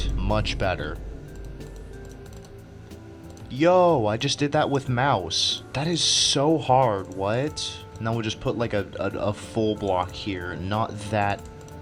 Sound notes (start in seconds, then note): none